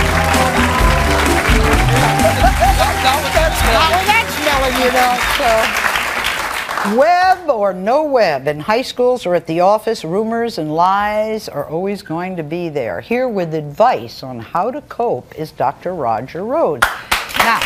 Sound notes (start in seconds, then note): 0.0 audience applauding; 0.0 bright music; 1.2 group chattering; 16.8 audience clapping